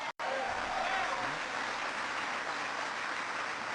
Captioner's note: applause